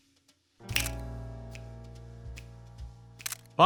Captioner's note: snaps